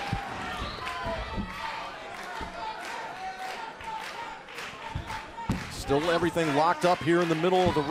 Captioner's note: crowd chatter